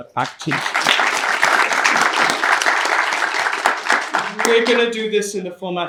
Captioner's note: audience applauding